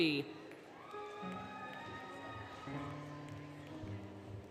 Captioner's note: applause, Cheering, Music